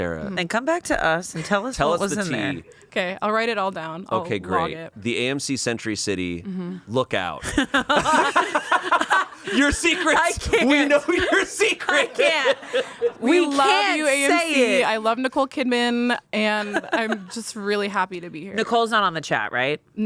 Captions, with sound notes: - Sara. - And come back to us and tell us what was in there. - Tell us the tea. - Okay, I'll write it all down. I'll log it. - Okay, great. The AMC Century City, look out. (everyone laughs) Your secrets. - I can't. - We know your secrets. (laughs) - We can't say it. - We love you, AMC. I love Nicole Kidman. And I'm just really happy to be here. - Nicole's not on the chat, right?